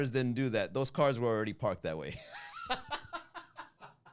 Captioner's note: laugh